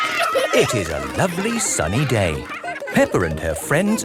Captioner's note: cheering